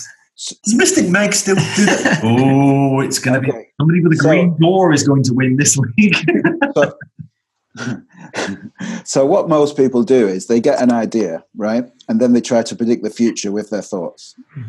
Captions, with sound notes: (laughter) - Does mystic Meg still do that? Oh it's gonna be how many with the green? Nora's going to win this week. (laughter) - (chuckles) So what most people do is they get an idea, right? And then they try to predict the future with their thoughts.